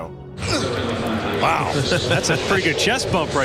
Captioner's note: grunting